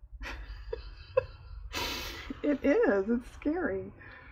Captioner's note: laughs